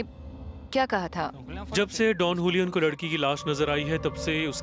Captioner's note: speaks spanish